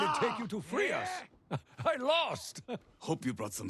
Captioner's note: laugh